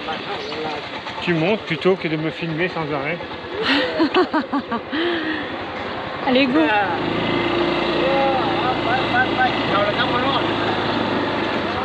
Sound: laughs

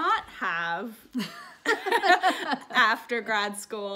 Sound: both laugh

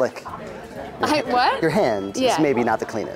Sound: chuckles

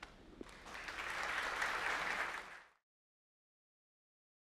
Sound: audience applauding

